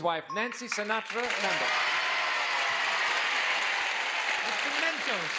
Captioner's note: audience applauds